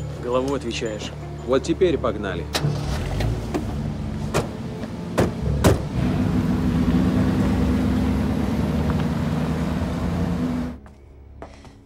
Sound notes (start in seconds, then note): 5.6 door clicks shut; 6.0 car engine sounds